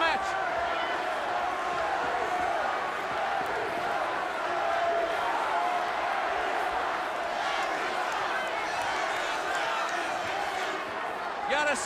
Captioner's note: crowd cheering